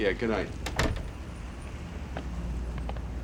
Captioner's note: door closes